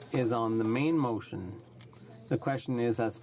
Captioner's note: speaking in french